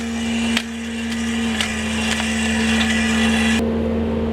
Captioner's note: shovel scraping; machine whirring